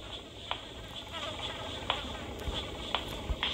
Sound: bees buzzing

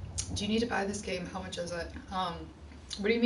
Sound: none

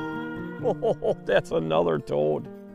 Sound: chuckling

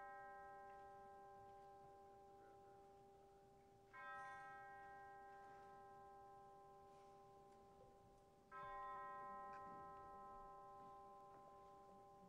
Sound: bells tolling

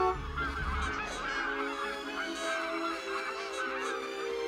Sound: car Horn Honks; geese Honking; honking

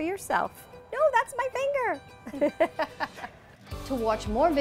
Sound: laughing

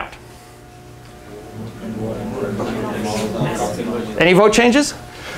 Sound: mumbling

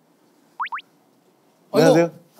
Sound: peep

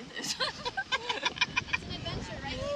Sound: laughter

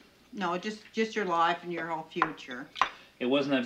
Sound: Nancy tuts

